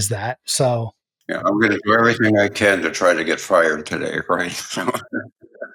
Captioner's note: laugh